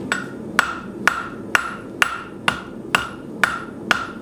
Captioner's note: hammer banging